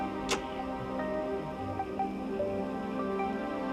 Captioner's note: door creaks; door closes